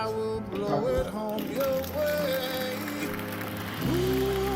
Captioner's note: applause